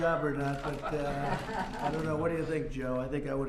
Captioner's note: laughter